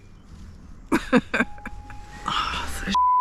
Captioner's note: laughs